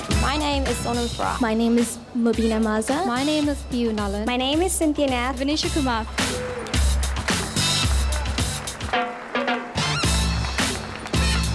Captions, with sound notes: - My name is Sono Fra. - My name is Moogli Maza. - My name is Pia Nulla. - My name is Synthia Nath. - Vaneesha Kumar. (crowd cheers) (upbeat music)